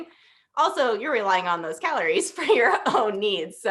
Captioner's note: laughter